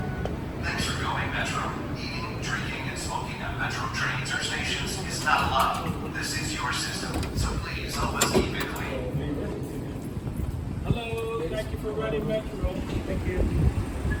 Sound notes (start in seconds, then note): 1.0 PA system